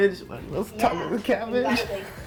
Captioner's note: murmurs